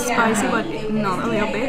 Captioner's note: none